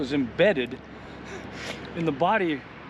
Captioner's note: chuckling